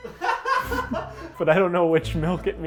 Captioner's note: man laughing